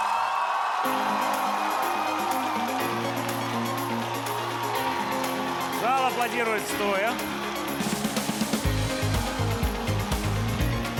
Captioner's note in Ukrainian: оплески